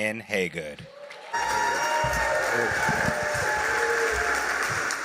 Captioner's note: applause and cheers